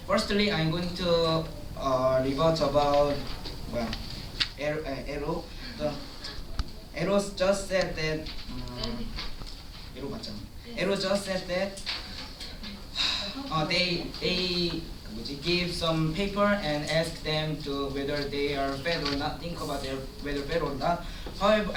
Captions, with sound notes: Firstly, I'm going to -- rebut about -- the LO. rebut about -- the LO. The LO just said that -- The LO just said that -- [Sigh] -- they'll give some paper and ask them whether they think they are fat or not. and ask them whether they think they are fat or not.